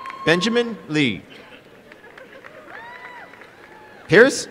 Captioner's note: applause